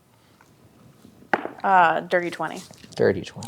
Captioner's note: dice rolling